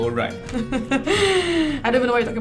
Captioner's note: laughs